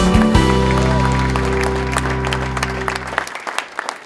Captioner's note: applause